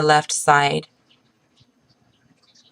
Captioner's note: pause